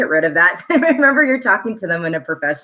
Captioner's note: laughs